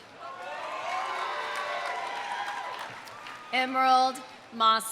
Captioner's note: audience cheering; audience applauding